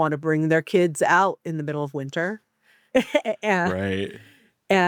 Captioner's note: chuckles